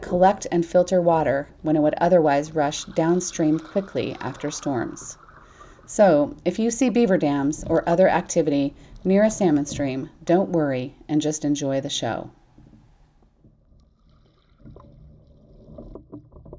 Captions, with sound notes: collect and filter water when it would otherwise rush downstream quickly after storms. So if you see beaver dams or other activity near a salmon stream, don't worry and just enjoy the show. [WATER BURBLING]